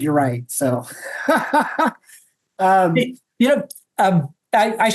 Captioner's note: laughs